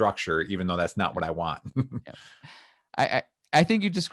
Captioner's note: laughs